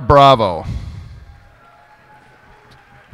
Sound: cheers and applause

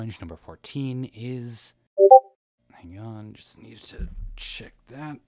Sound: Discord notification noise

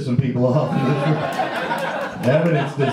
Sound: audience laughs

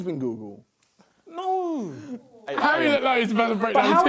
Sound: crowd mumbling

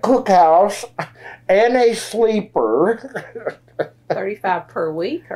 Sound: laughs

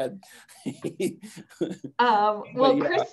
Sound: giggling

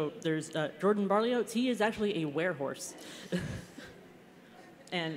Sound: laughter

